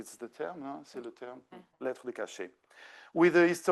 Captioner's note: speaking French